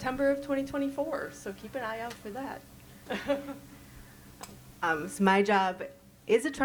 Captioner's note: chuckles